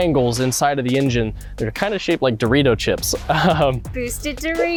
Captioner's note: laughs